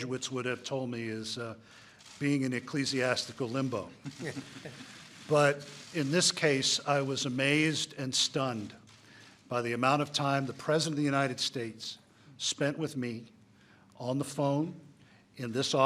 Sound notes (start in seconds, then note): 4.0 laughter